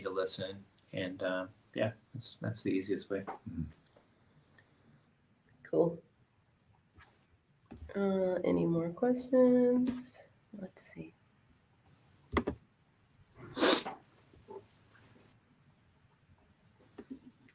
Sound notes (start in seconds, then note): none